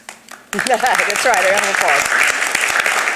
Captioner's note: everyone applauds